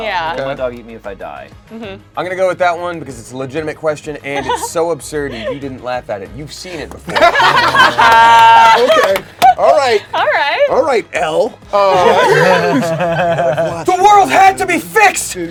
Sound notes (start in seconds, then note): 7.0 everyone laughs